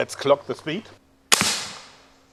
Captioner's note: shot